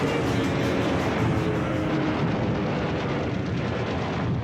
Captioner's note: sound of planes flying